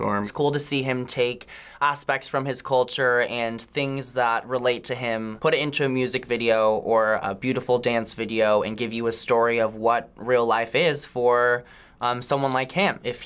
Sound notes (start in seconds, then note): none